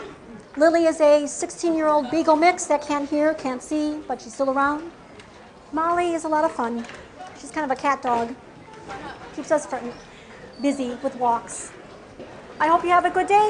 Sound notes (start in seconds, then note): 8.8 laugh in background